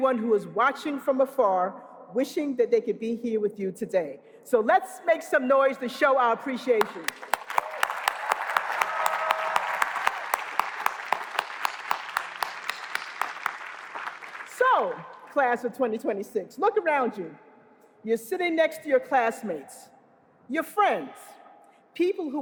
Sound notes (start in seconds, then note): 7.3 applause